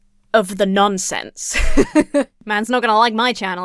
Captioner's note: laughs